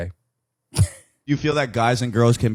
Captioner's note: laughs